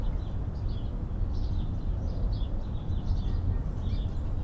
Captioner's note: birds chirping